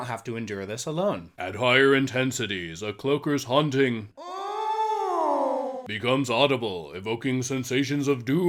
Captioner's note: moan